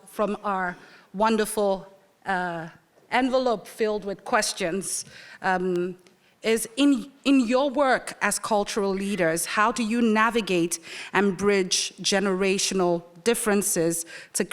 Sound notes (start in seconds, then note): none